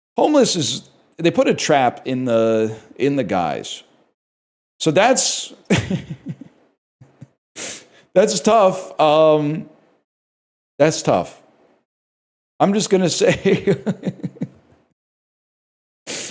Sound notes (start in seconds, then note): 5.7 chuckles; 13.3 laughs